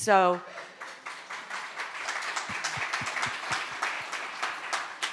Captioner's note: audience applauding